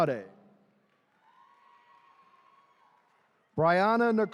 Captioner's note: attendees cheering